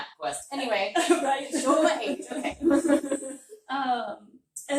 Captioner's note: laughter